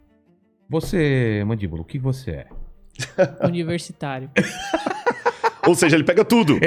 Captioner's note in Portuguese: risadas